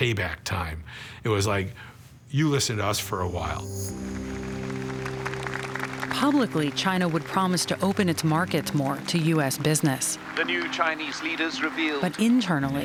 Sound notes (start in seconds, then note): 4.9 crowd applauding